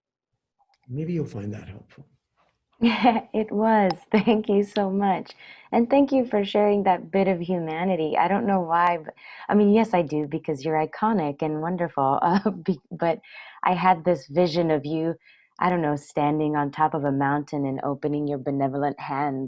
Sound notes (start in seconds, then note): 1.0 chuckles